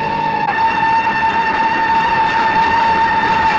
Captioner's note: train whistle